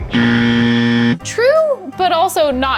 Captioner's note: buzzer blares